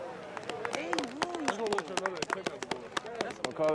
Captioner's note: players applaudes